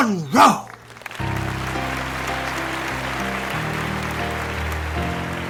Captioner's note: audience applauds